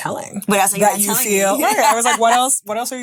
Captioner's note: laughing